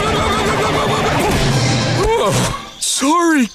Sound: screaming; sighing

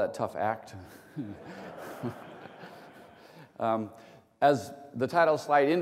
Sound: laughter

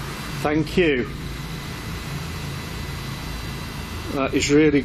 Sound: machine buzzing

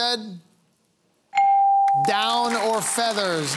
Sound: applause

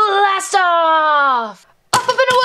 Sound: toy clicks

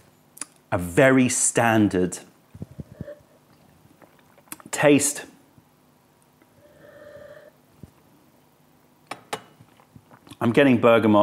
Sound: sips tea

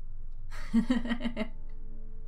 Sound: chuckle

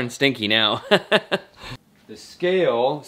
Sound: laughs

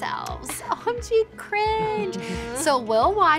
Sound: chuckles

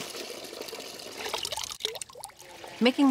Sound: water running

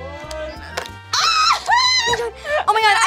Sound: screaming

